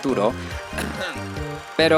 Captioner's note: cof cof